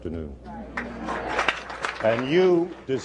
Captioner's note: applause